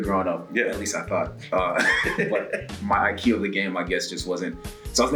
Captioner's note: laugh